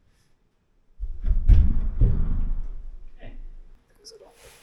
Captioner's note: cyclone thuds